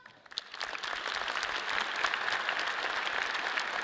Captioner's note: audience applauds